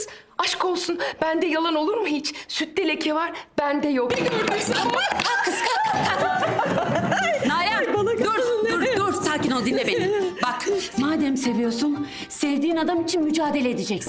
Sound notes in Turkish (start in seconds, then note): 4.2 Sevinç çığlıkları